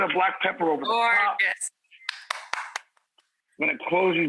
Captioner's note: clapping